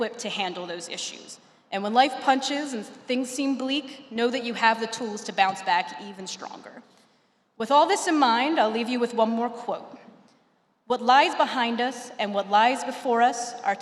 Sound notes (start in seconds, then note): none